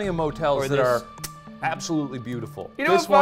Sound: smooches

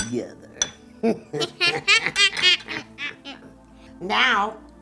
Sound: cackling

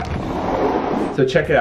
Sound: door opening

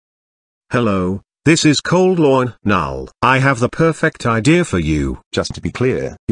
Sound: in British accent

